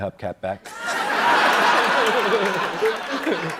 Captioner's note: laughter